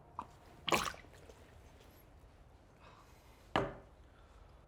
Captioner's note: Danny spits